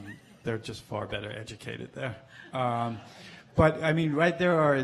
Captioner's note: audience chuckles